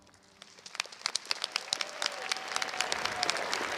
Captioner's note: crowd applauds